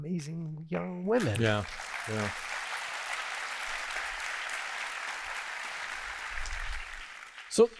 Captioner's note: applause